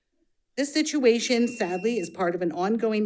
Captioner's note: buzzer buzzing